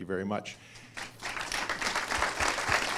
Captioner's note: applause